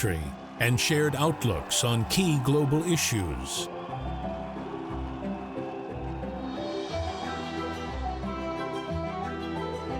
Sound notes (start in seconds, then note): 3.7 audience cheering; 3.7 warm instrumental music